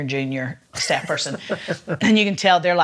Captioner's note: laughs